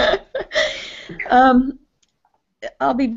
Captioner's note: laughter